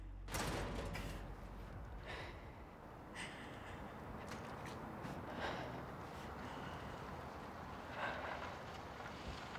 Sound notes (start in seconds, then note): 1.6 breathing shakily